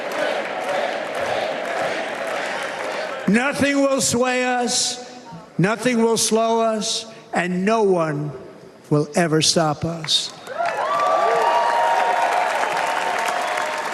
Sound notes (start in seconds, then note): 2.4 cheers and applause